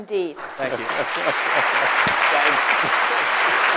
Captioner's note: applause